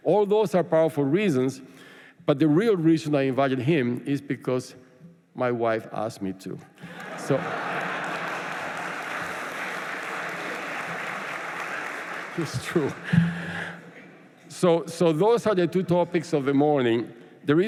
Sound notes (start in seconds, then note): 6.8 laughter; 6.8 applause